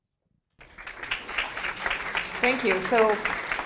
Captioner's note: applause